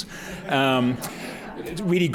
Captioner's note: laughter